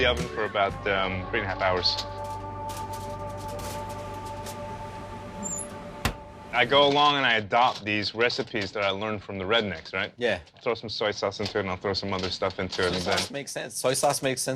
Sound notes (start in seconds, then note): none